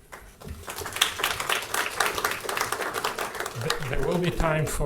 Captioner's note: audience applauding